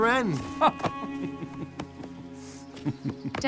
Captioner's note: both laugh